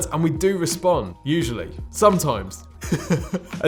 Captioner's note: laughs